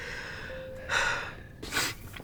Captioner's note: sighing